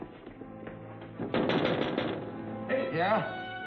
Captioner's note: tapping window